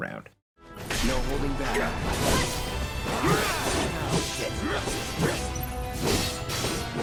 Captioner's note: game characters grunting and yelling